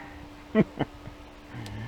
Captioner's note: laughing